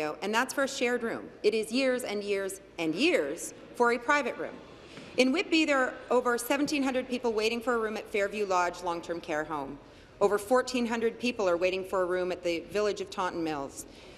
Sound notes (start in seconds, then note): none